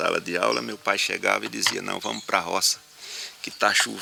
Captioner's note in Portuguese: Canto de pássaros